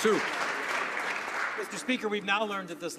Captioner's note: some Applause